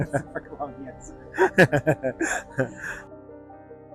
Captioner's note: laughter